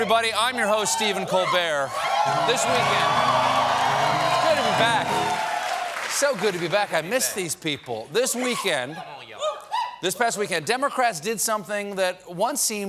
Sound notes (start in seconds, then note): 5.1 cheers and applause; 5.1 piano riff